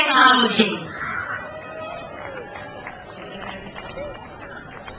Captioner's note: crowd applauds